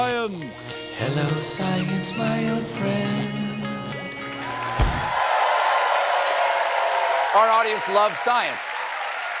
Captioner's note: cheers and applause